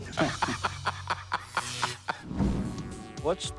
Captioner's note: laughs; electricity buzzing